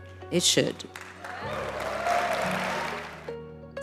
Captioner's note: applause